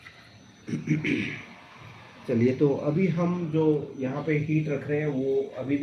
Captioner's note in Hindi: गला साफ़ करने की आवाज़